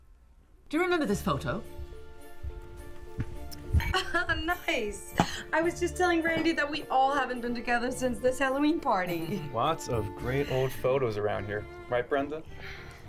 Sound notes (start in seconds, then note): 1.6 bright orchestral music; 3.8 laughs